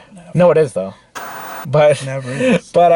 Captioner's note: TV Static